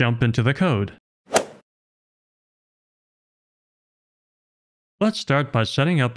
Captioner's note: golf ball hit sound effect